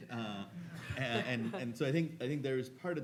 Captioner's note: audience laughing